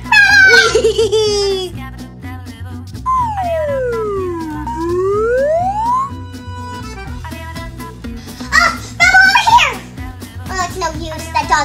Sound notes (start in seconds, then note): 0.4 Rubble chuckling; 2.4 assistant whizzing; 2.4 fast mischievous music